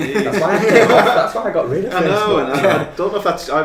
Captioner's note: laughing